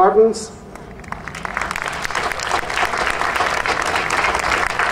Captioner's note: audience applauding